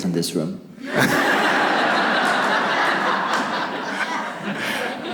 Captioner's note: audience laughs